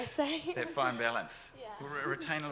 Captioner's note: laughs